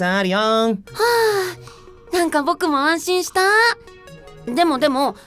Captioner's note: sigh